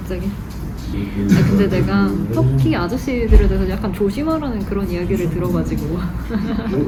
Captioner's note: laughs... ^^